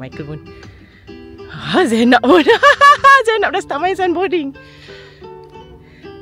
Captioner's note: laugh